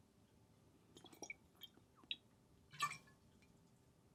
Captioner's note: beer sloshes